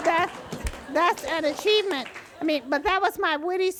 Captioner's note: audience laughs and claps